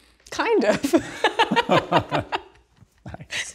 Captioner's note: both laugh